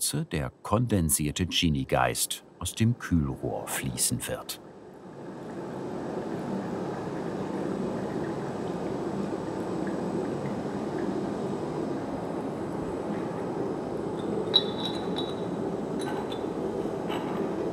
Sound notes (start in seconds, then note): 6.9 rushing and bubbling; 14.5 glasses clinking